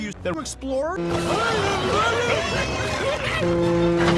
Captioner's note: piggy noises